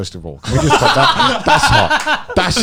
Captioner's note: laughs